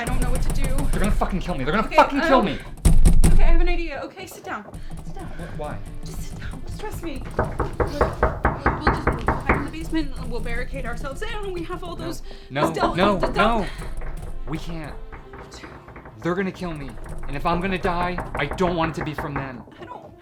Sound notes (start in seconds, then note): 7.4 door banging